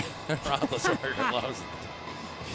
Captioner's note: laughs